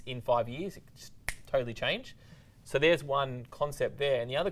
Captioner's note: snaps fingers